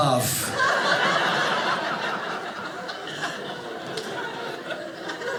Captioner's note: audience laughing